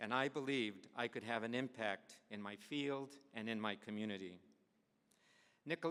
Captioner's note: none